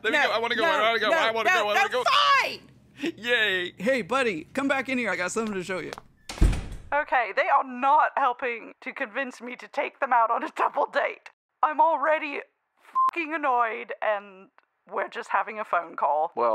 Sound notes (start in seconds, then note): 6.1 door shuts